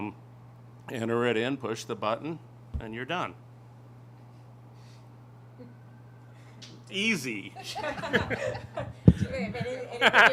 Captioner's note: laughter